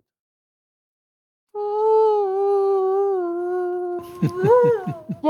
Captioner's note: ghost wailing cartoonishly